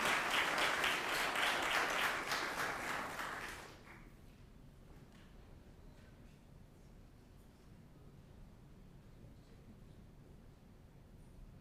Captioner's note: applause